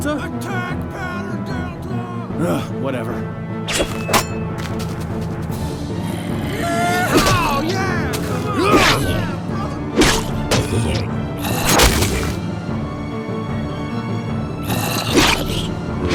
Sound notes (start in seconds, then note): 8.5 N00bly yells